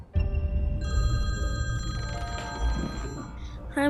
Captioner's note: phone ringing